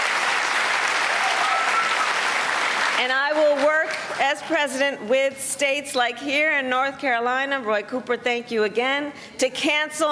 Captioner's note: cheers and applause